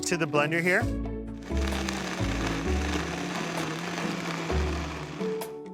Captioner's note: blender whirring